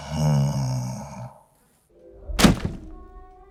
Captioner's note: snoring